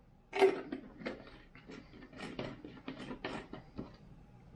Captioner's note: plastic clatters